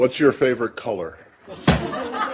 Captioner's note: laughter